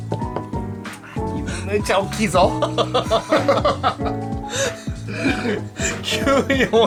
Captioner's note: laughs